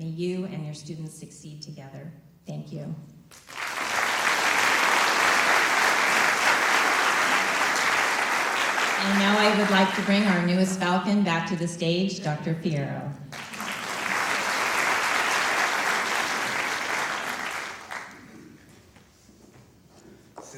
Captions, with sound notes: May you and your students succeed together. Thank you. [applause] And I now, I like to bring our newest Falcon back to the stage, Dr. Fierro. [applause]